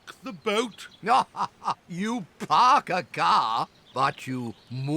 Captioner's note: laughs